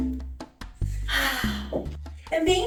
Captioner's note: sighs happily